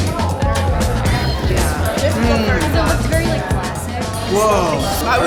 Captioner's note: distant chatter